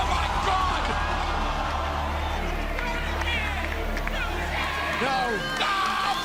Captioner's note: crowd cheering